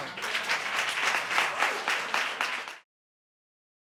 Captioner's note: clapping